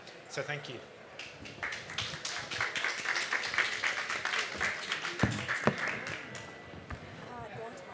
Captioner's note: applause